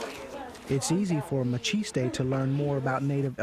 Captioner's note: voiceover